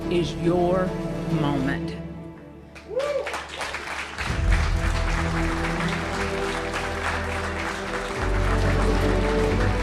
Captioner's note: applause